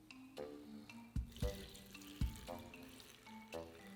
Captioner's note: liquid pouring